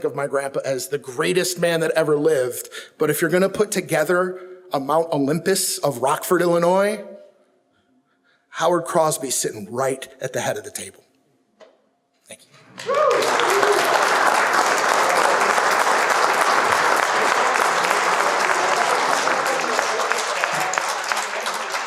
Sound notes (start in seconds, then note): 12.6 audience applauds; 18.3 audience murmurs